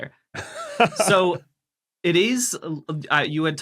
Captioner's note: laughs